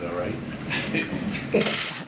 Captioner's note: laughter